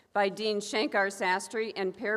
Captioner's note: none